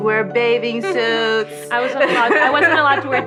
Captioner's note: laughing